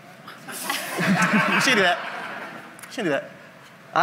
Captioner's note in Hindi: हँसी